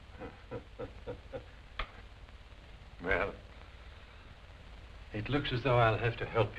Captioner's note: laughs